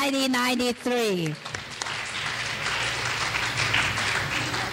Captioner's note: clapping